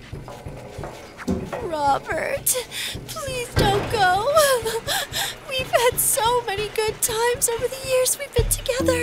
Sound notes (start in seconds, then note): 5.7 sobs